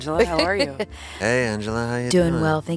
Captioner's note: laughs